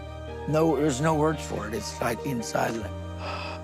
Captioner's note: gasps